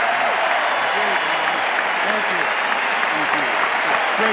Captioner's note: wild cheering